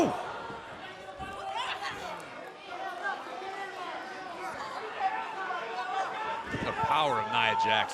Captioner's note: crowd cheering